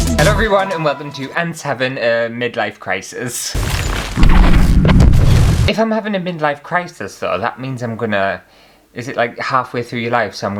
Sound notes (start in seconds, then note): 0.0 intro Music; 3.5 explosions!